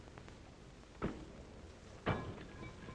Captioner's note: thud